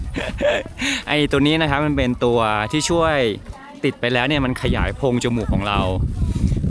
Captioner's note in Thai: เสียงหัวเราะ